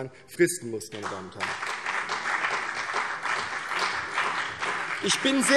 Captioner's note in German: Beifall CDU und BÜNDNIS 90/DIE GRÜNEN